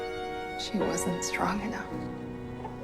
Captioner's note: voiceover